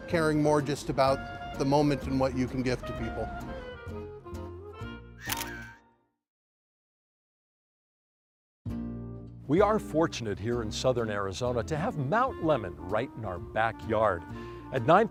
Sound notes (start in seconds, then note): 1.4 upbeat band music; 5.2 shutter clicks